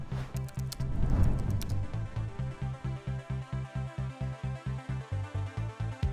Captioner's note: text typing; lively music